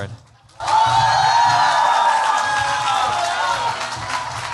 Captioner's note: cheers, applause